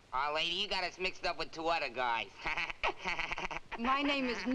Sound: laughs

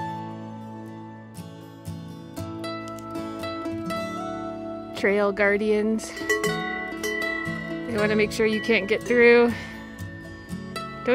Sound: cowbwell

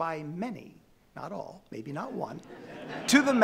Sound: audience laughing

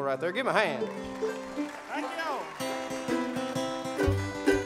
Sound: audience applauds

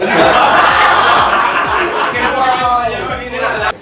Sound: laughs

